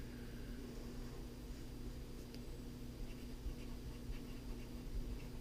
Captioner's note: pen writing on paper